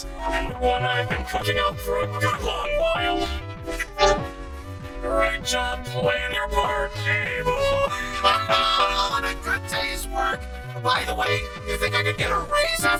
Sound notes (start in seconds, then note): 7.8 both laugh